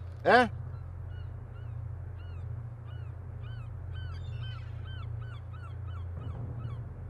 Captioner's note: gulls shrieking; tense music continues